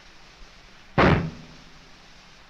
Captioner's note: gunshot